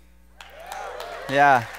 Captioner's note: audience applause